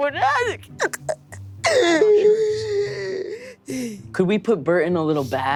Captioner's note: sobs